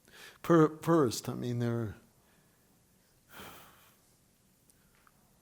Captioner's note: sighs